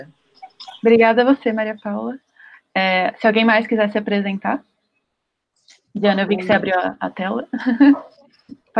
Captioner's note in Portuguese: risos